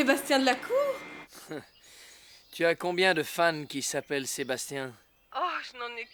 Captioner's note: laughter